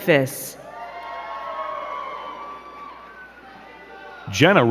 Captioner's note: crowd cheering and clapping